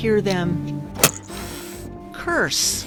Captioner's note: hissing